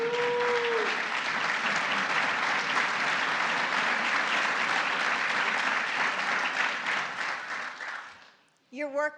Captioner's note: applause